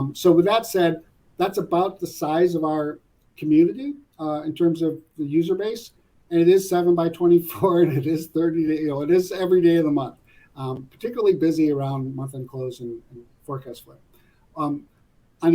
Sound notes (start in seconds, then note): 7.5 laugh